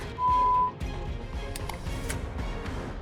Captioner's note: clicks